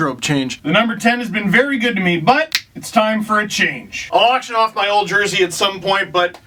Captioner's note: quick editing snap